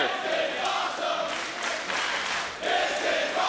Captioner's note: crowd clapping